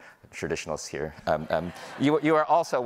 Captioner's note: audience laughing